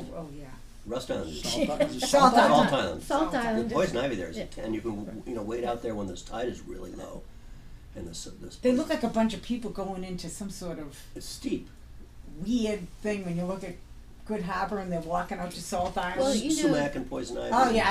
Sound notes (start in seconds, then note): 0.2 voiceover; 7.6 voiceover; 11.4 voiceover; 16.3 voiceover